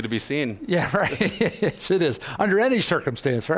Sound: laughs

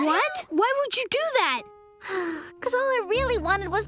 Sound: sighs

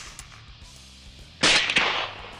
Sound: fires

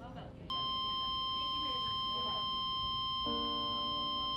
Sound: long beeping

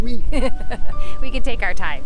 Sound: laughs

